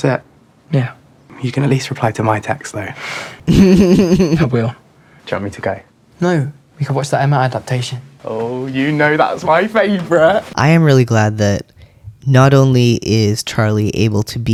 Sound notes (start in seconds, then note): 3.4 laugh